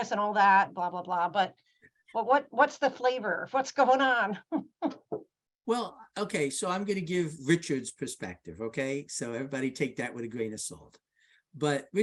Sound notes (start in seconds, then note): 5.9 laughs